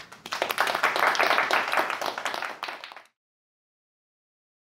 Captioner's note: audience applauding